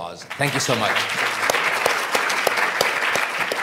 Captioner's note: applause